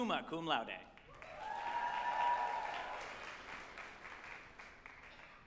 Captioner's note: group applauding and cheering